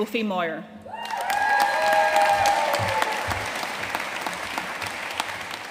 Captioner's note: audience cheering and applauding